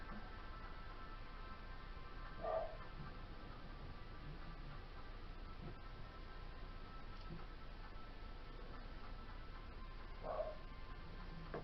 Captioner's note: dog barks heard in the background as music continues playing